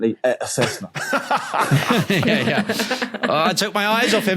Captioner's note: group laughing